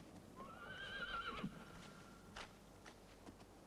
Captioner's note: horse whinnies